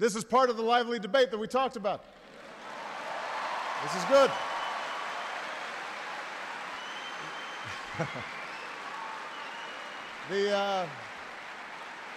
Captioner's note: applause